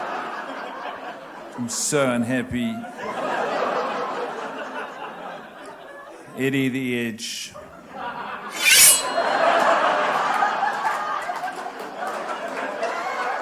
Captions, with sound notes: I'm so unhappy. Eddie The Edge. [Knife slicing sound]